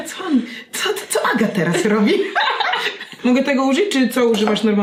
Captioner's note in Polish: śmiech